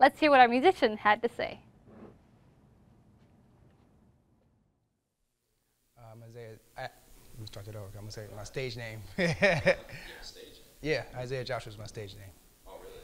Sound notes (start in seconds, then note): 9.2 laughs